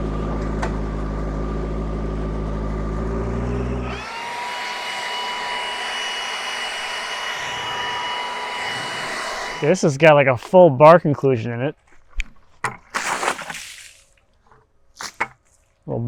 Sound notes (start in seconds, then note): 3.3 blower whirring; 11.8 water sloshing